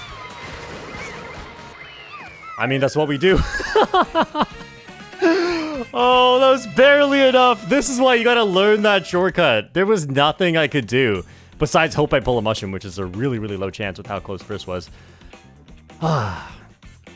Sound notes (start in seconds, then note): 3.2 laughs